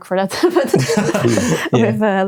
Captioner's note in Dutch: beide lachend